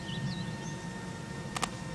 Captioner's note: hands clasping